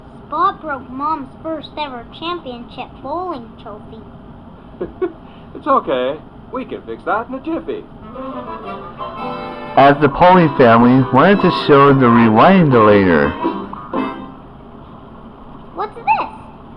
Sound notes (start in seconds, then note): 4.8 giggles